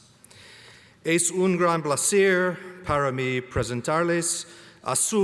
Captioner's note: speaking foreign language